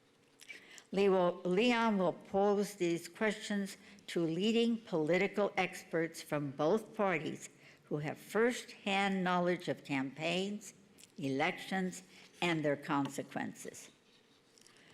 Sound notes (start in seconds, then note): none